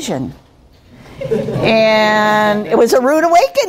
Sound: laughing

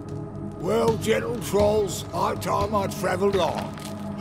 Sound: none

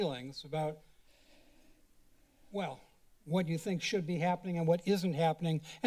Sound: sigh

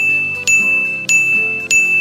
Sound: ding noise

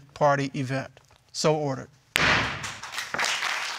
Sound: gavel bangs

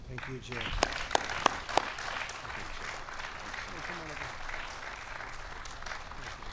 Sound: applause

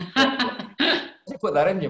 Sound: laughing

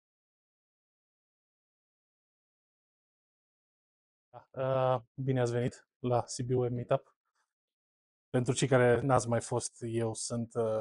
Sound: speaking in Romanian

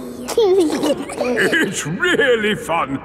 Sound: giggling

